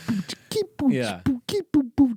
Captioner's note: imitates drum beat